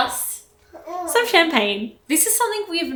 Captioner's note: baby coos